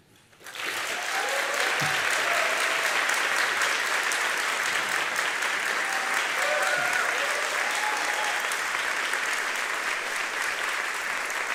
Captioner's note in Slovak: Potlesk